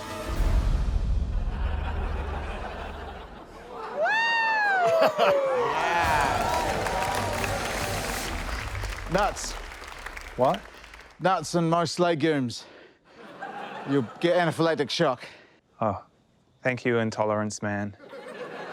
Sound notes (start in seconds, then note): 0.5 music fades; 3.7 cheers, applause